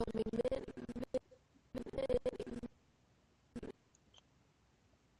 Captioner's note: audio skipping